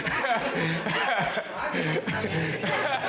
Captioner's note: laughter